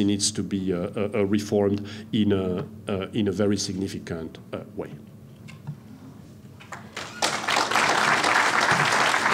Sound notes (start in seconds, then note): 6.6 applause